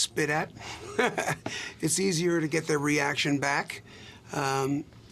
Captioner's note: laughs